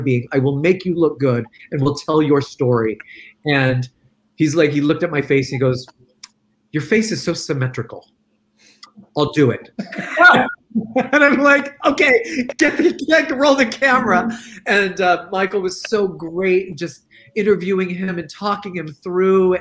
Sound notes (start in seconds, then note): 9.7 laughs; 9.8 laughing